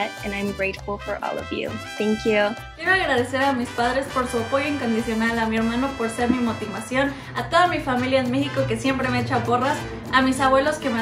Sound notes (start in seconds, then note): 2.8 speaks in foreign language